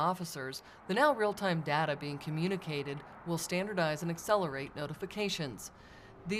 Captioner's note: sounds of vehicles driving on a road; sounds of vehicles driving through constuction zone